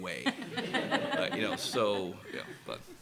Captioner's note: laughter